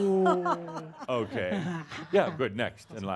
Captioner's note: laughs